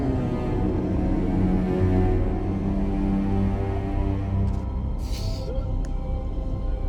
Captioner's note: dramatic music continues; player hums